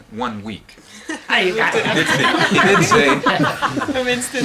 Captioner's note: laughter